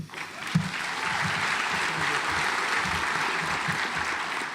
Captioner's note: audience applauds